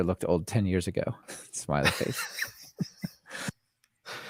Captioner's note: laughing